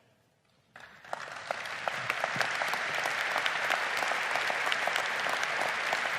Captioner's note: crowd applaud